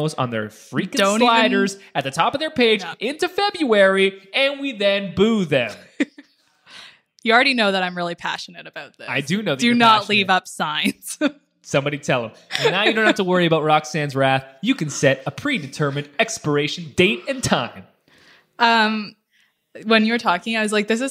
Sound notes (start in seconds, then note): 5.6 laughs